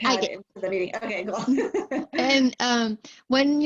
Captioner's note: laughter